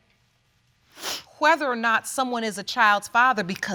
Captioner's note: sniffles